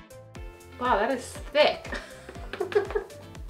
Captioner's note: giggles